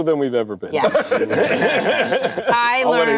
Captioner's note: laughter